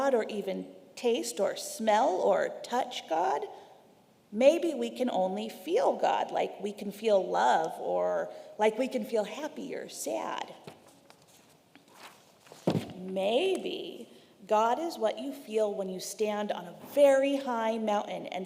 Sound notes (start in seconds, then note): 10.6 paper rustling